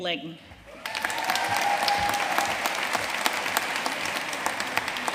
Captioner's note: audience cheering and applauding